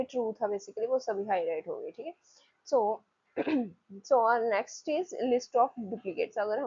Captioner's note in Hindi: गला साफ़ करने की आवाज़